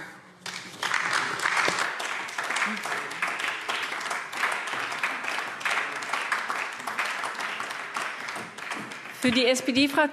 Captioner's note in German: Beifall AfD